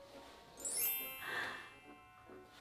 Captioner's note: fairy dust sfx